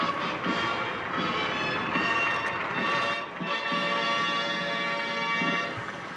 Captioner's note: jubilant music; audience applauding